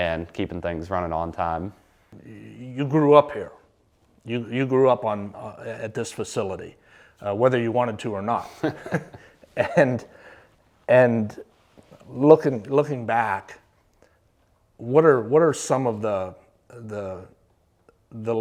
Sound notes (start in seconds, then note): 8.4 both chuckle